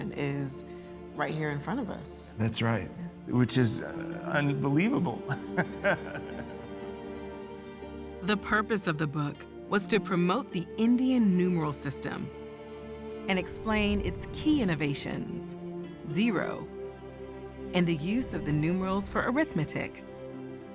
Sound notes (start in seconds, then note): 5.2 laughs